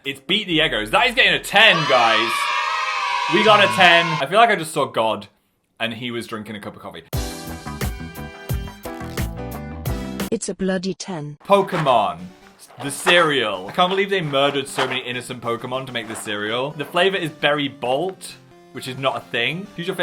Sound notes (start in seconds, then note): 1.5 canned children cheering; 7.5 upbeat jazzy music